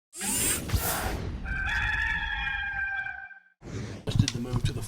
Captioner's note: rooster crowing